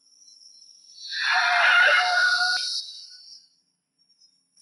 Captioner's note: tires squealing